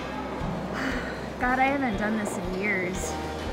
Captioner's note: sighs